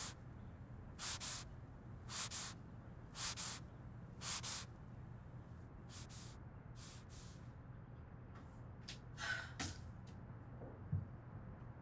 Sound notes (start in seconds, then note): 9.1 sigh